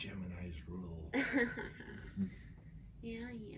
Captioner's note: laughs